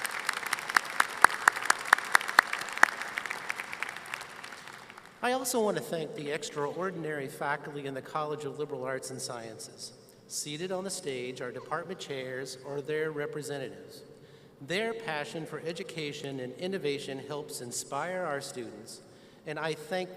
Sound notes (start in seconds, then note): 0.0 applause